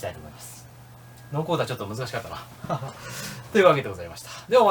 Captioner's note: laughs